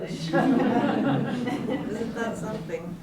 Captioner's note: laughs